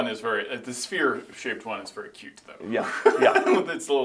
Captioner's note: laughs